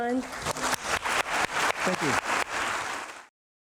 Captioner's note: audience applauding